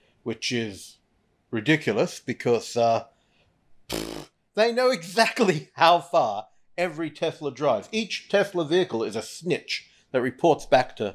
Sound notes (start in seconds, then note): 3.1 scoffs